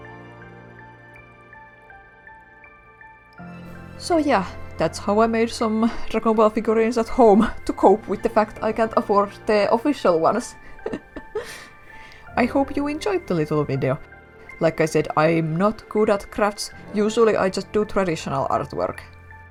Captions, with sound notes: So yeah. That's how I made some Dragon Ball figurines at home to cope with the fact I can't afford the official ones (laugh) I hope you enjoyed the little video Like I said I'm not good at crafts, usually I just do traditional artwork